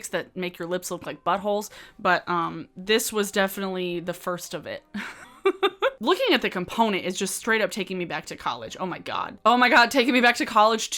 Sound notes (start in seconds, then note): 4.6 laughs